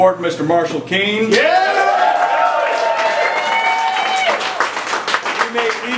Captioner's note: cheering